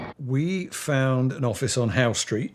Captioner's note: ABC rumbling